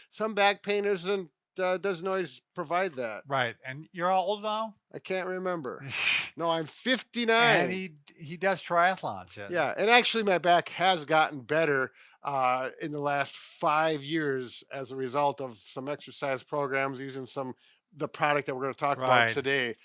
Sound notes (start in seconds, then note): 7.4 chuckles